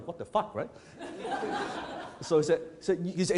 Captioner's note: audience laughs